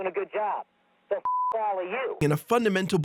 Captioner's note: beep